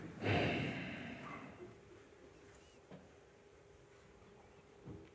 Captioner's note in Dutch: lange stilte